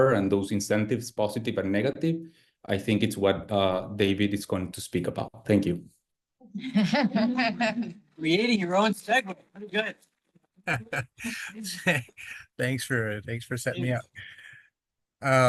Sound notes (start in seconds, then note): 6.6 all laugh